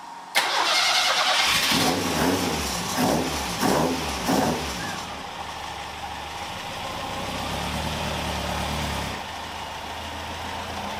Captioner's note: engine noise